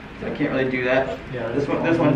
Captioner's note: mummers